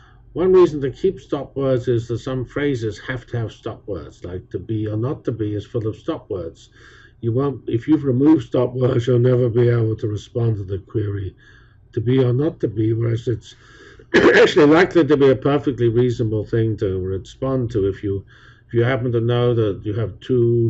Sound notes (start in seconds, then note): 14.1 cough